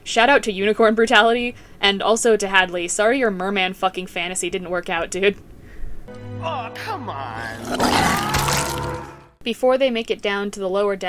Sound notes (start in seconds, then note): 7.4 screaming